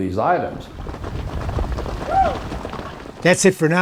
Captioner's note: hooves clattering